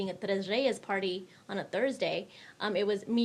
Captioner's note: speaks in foreign language